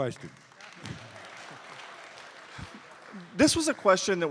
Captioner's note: applause